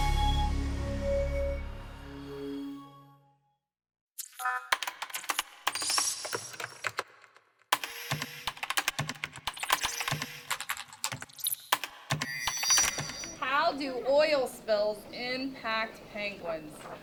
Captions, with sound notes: (typing) - How do oil spills impact penguins?